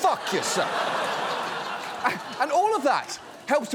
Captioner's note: audience laughs